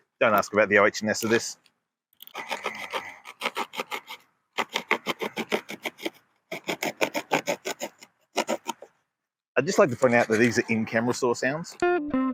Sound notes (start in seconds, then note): 4.5 box cutting sound